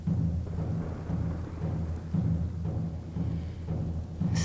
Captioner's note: rain slaps; thunder cracks